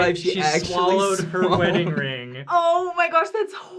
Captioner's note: laughing